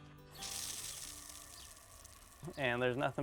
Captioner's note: water showering